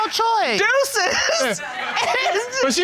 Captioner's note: laughs